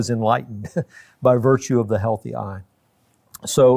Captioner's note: chuckles